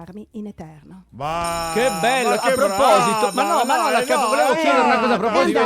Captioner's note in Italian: suona la campanella